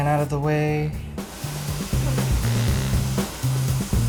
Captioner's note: eggplant sizzling